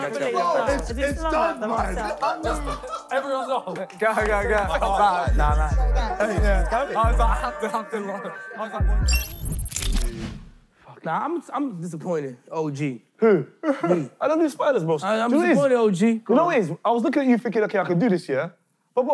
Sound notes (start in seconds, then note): 2.2 KSI laughing